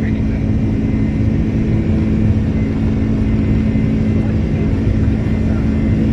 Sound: engine rumbling continues

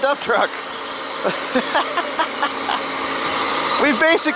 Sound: laughing

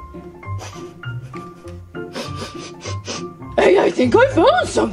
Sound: Scooby sniffles

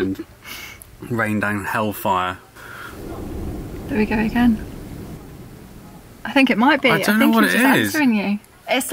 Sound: loud bang in the distance

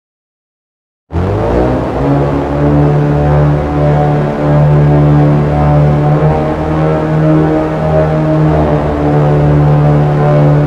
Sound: sound of sand dunes

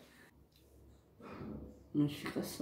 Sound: sigh

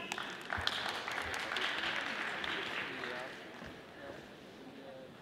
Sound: audience applauding

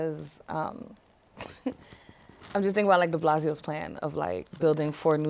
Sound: laughter

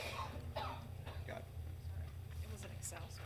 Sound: member coughing

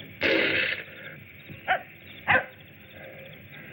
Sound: dog barking

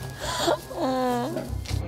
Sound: moaning

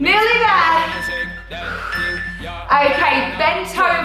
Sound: timer beeping

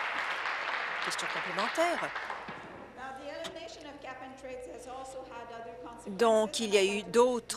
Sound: applause

